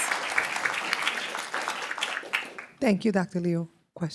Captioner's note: applause